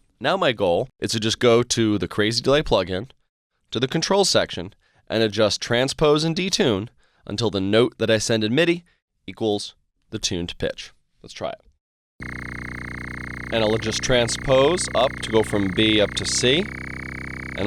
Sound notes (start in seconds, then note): 12.2 electronic sound